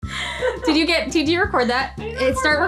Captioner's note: laughing